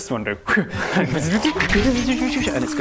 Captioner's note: beep boop beep